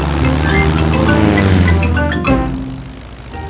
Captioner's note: plane engine revving